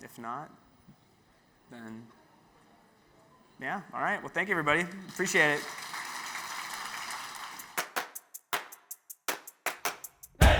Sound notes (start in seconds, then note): 4.4 audience applauds; 7.9 bright music